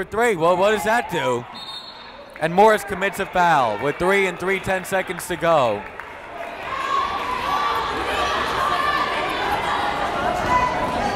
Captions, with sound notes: Gotta go for three, what does that do? (whistle blowing) And Morris commits a foul with 3.3 seconds to go. (yelling)